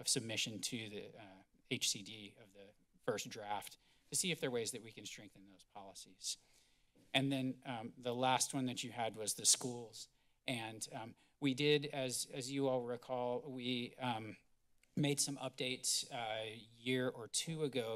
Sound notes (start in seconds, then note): none